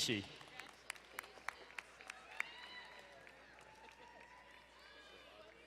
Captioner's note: crowd cheering and applauding